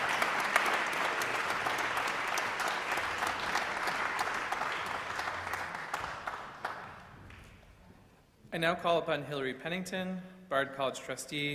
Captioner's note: applause